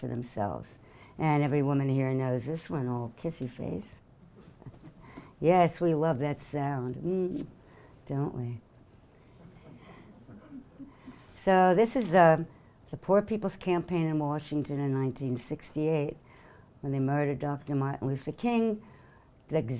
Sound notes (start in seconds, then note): 7.2 blowing kiss